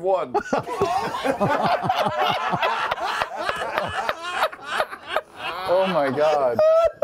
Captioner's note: laughter